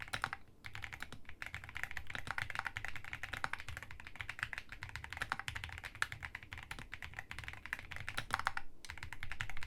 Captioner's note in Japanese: 打鍵音チェック中